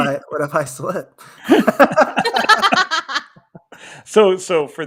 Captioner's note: everybody laughing